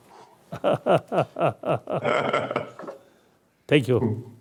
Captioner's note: laughs loudly